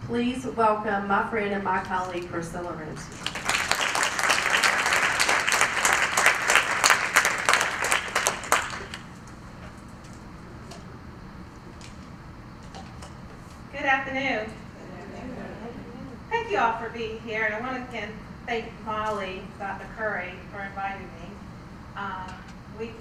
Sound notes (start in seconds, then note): 3.0 applause